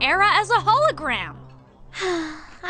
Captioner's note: sigh